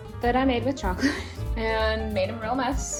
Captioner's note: chuckles